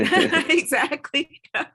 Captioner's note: laughing